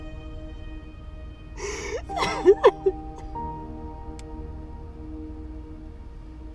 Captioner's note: dramatic music continues; Abby sobbing continues